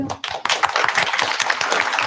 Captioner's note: applause